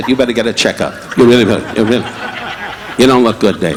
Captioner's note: audience laughing